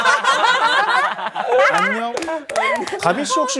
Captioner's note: laughing